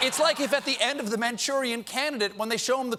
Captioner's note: laughter